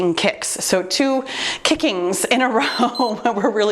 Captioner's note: timer beeps